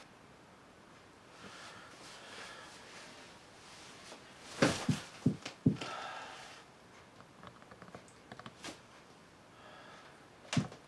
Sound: the knocking continues

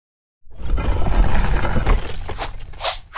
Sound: stone scraping

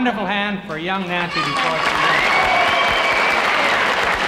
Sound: audience cheers and applauds

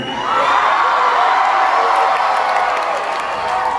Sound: cheering

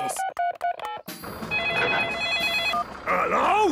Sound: phone ringing; phone beeping

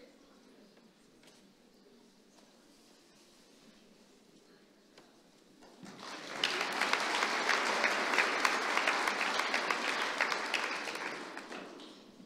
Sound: applause

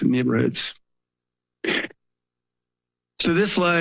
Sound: pause

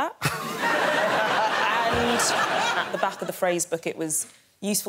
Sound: Greg laughs

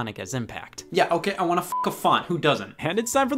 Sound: beep

